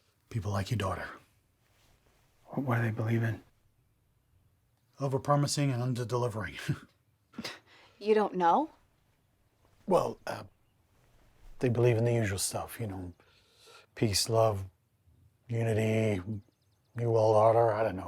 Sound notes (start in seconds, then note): 6.5 laughs; 7.3 scoffs